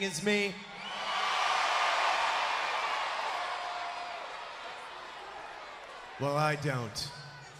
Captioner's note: crowd cheering